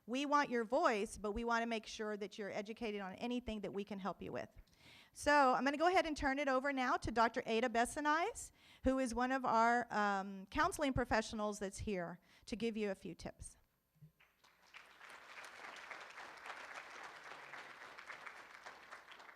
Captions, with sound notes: We want your voice, but we wanna make sure that you're educated on anything that we can help you with. So, I'm gonna go ahead and turn it over now to Dr. Aida Bessinides, who is one of our counseling professionals that's here to give you a few tips. (room applauds)